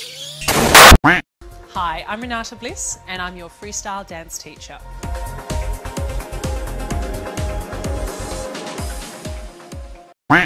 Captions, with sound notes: (BOOM) hi i’m renata bliss and i’m your freestyle dance teacher (upbeat music)